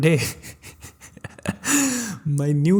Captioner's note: laugh